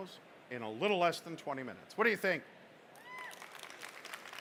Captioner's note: applause